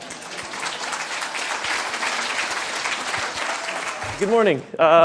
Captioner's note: audience clapping